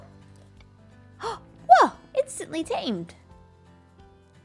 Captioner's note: gasps